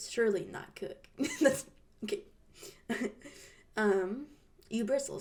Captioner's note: laughs